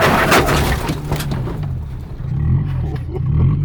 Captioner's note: tires squealing; crashing sounds; engine revs